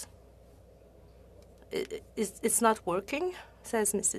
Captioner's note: speaking French